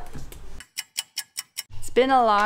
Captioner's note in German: Uhr tickt